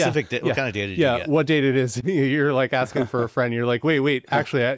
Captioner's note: chuckles